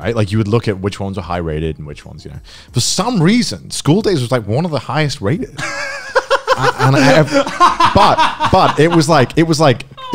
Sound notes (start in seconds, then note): 5.6 laughing loudly